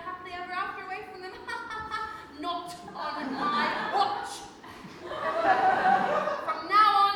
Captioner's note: audience laughs